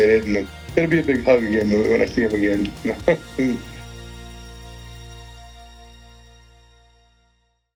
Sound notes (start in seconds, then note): 0.8 chuckles; 3.8 uplifting music ending